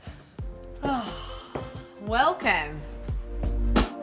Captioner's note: sighs